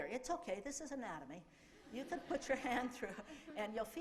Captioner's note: laughter